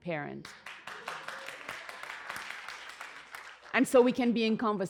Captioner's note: applause